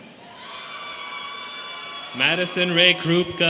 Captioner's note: students cheering